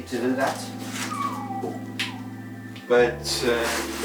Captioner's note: whistles